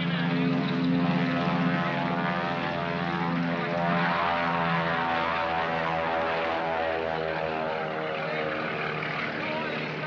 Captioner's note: aircraft roars